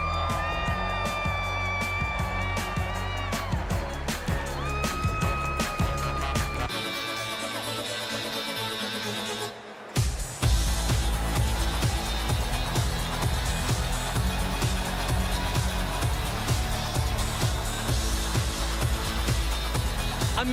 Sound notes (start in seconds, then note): 2.5 cheers and applause